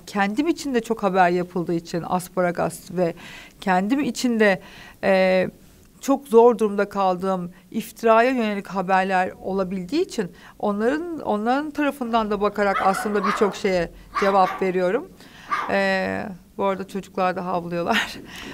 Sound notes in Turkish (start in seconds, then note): 12.6 Köpek Sesi